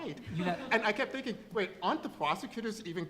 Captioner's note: laughter